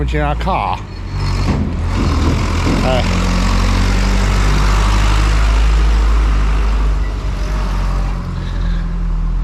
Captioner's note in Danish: høje traktorlyde